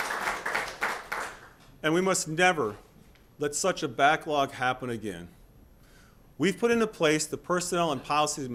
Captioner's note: applause